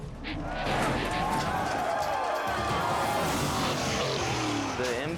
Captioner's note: spectators screaming